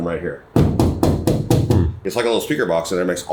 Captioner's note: car knocking